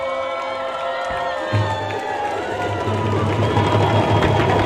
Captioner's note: all applaud